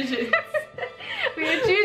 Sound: both laughing

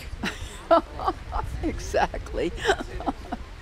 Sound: laughter

